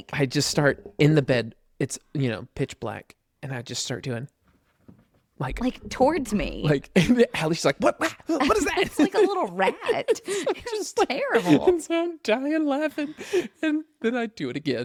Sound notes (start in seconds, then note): 4.4 scratches; 7.8 laughs